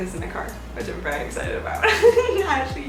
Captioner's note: giggling